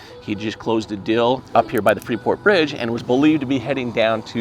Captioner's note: none